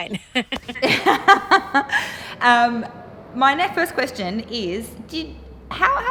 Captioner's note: laughing